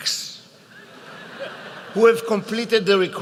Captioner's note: laughter